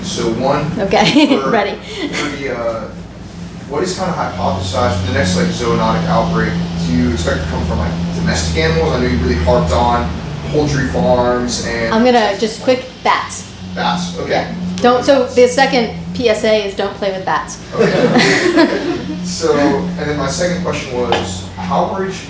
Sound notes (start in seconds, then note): 17.6 audience laughs